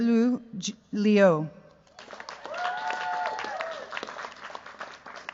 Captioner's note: cheers, applause